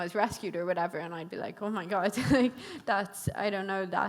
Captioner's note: chuckles